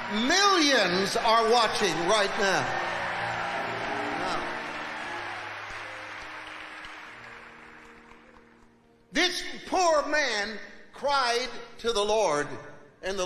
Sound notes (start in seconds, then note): 3.4 congregation cheering